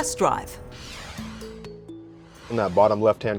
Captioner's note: transition whooshes